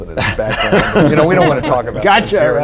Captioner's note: laughter